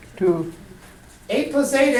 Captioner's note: voiceover